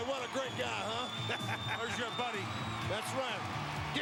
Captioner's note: laugh